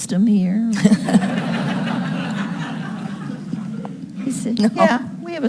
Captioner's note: audience laughing